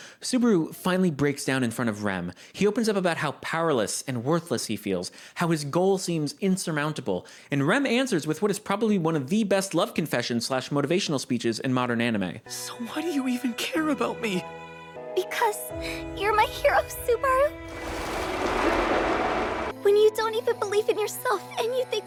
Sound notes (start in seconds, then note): 17.7 whoosh